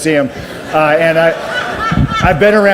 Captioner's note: audience laughs